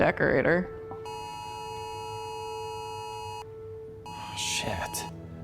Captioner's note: phone blaring